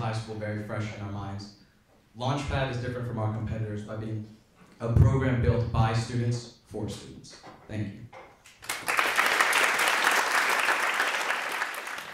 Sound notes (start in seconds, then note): 8.5 applause